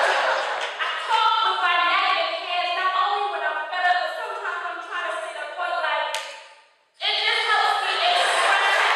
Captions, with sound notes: I talk with my neck and my hands not only when I’m fed up but sometimes, I'm trying to say a point like (clap) it just helps me express it better